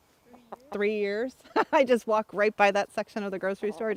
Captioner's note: laugh